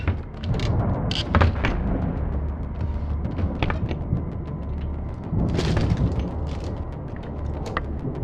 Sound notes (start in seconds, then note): 1.6 tense music continues; 1.6 thunder rumbling